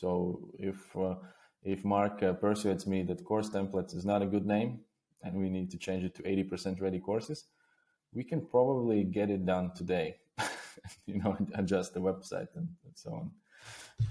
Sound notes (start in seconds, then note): 10.4 chuckles softly